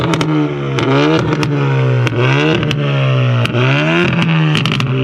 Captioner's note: car exhaust popping